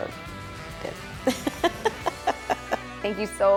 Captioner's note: laughing